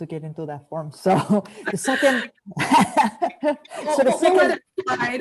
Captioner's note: laughs loudly